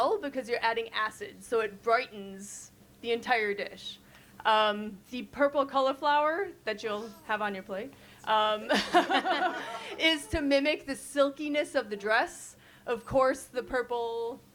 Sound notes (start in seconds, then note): 8.8 all chuckle